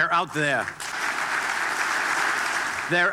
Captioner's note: applause